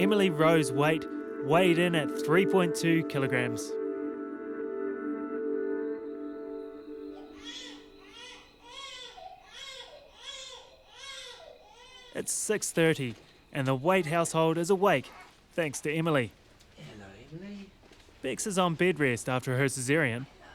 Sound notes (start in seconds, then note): 7.0 baby cries